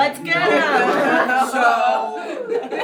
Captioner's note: audience laughs